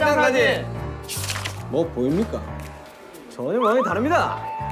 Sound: mysterious footstep

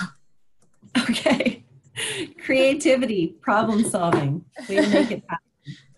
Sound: laughs

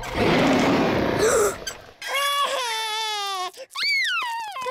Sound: beeps and roars; gasps and cries

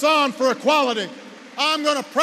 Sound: applause

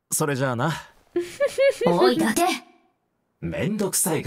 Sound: chuckles

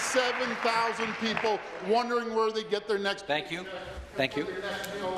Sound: applause

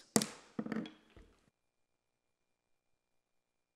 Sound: gavel banging

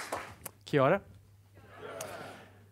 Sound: clapping; crowd

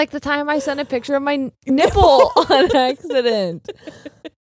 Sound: laughing

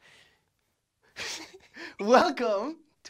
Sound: laughs

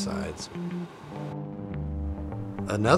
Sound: plane engine roaring

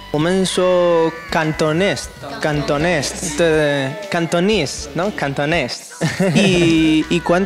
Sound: Spanish

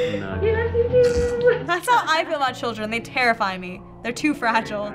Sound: snickers

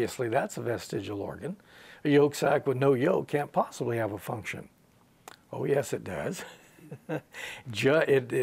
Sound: he laughs

